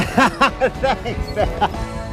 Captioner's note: laughter